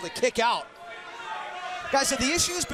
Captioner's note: crowd chatter